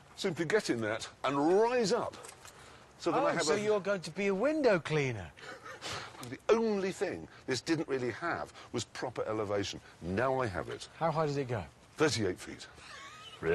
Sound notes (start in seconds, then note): 5.4 laughs; 12.8 richard laughs